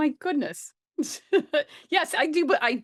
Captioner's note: chuckles